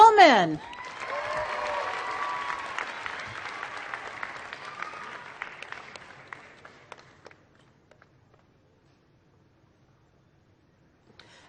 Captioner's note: applause